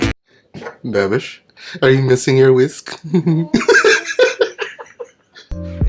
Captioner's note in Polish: Śmiać się